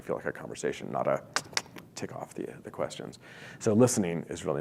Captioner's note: click tongue